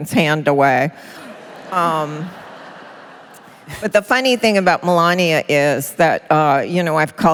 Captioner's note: laughter